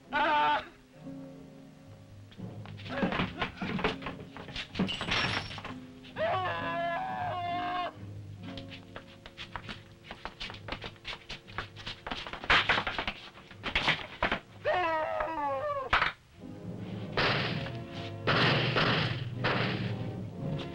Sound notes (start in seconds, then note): 0.3 Bruno shouts; 4.8 bottles shattering; 6.2 Bruno screaming; 12.2 table crashes; 14.7 Bruno screaming; 18.2 guns firing